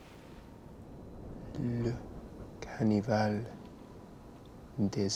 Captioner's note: French spoken audio